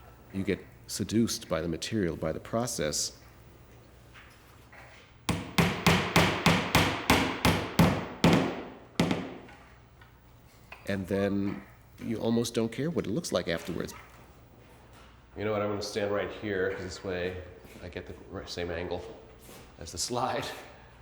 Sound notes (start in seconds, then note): 5.2 hammer banging